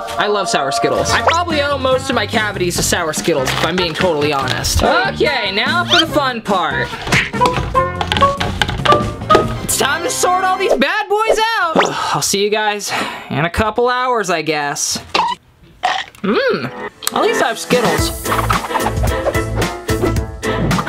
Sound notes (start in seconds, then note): 0.0 angelic music; 11.9 sighs; 17.2 upbeat music